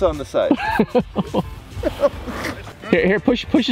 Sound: laughing

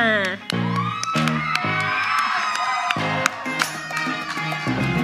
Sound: audience applauds

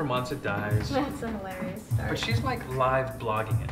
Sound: voiceover

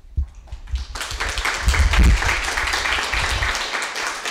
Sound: audience applauding

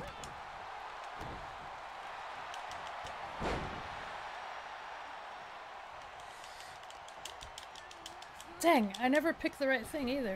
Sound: applause

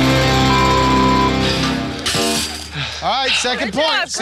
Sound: air horn blows; beep

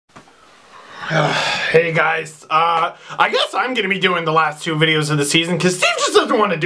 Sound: sighs

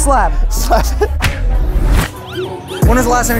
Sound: laughing

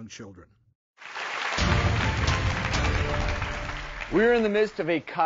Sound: audience cheering

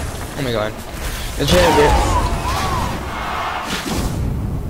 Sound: get's shot immediately and loud crowd cheers

